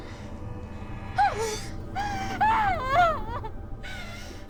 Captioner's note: screaming